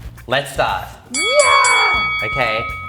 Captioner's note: bell ring; screams